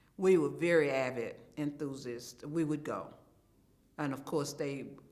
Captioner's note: none